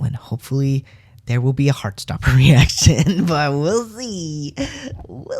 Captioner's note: laugh